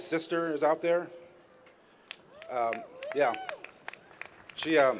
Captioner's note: applause